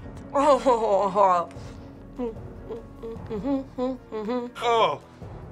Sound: hums

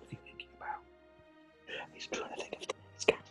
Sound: whispers

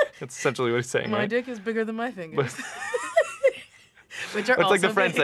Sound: laughs; laughter

